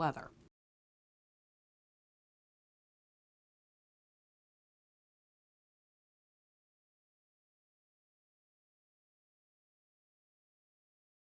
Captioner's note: no Sound Present